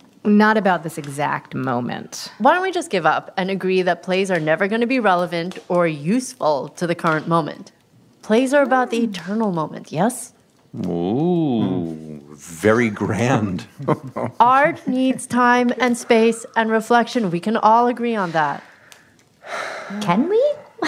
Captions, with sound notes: Not about this exact moment. Why don’t we just give up and agree that plays are never going to be relevant or useful to the current moment? Plays are about the eternal moment, yes? Ooh, very grand. (laughing) Art needs time and space and reflection. We can all agree on that. (sigh) Can we?